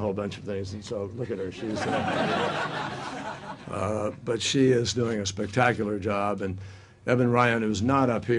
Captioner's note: laughter